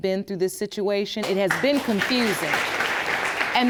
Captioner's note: audience applauds